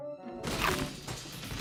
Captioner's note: crash